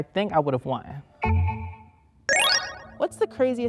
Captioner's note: dinging sound